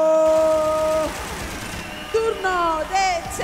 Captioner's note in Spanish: Aplausos